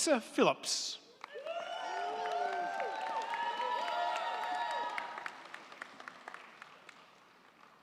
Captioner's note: crowd clapping; crowd cheering